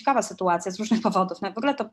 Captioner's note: śmiech